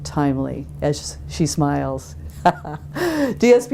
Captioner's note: chuckles